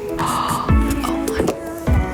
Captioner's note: gasps